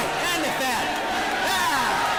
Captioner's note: applause